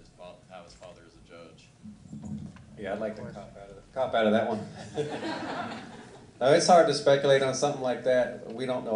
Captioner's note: laughter